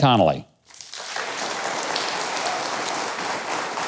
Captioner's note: audience clapping